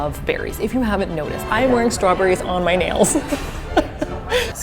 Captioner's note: laughs